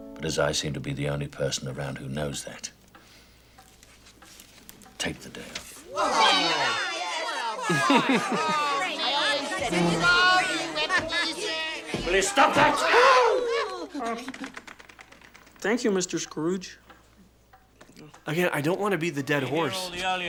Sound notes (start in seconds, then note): 5.8 workers cheer